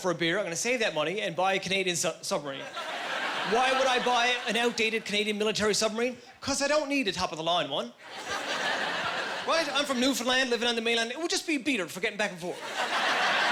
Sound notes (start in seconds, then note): 8.1 laughing; 12.6 laughing